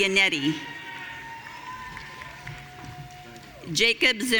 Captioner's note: audience cheering